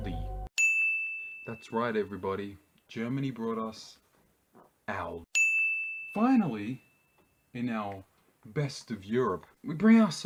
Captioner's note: ding